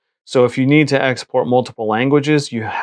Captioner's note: none